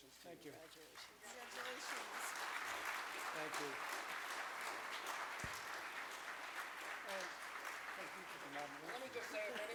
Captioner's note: audience applause